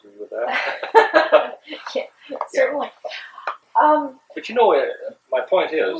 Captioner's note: laughs